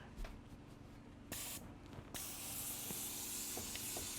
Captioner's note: spraying